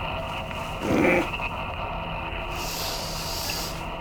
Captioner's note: Jay grunts